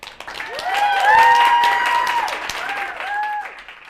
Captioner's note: crowd cheering